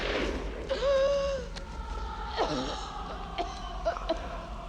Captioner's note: gasps; coughing